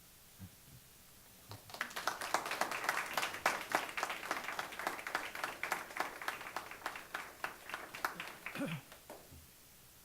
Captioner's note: clapping